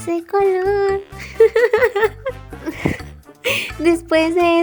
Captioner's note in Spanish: risa